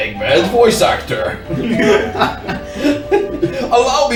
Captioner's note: the others laugh